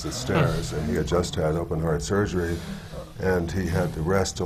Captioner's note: audience gasps